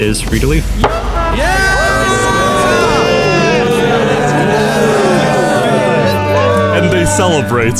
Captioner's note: cheering